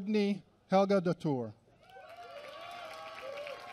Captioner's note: applause